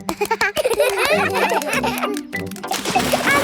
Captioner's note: children laugh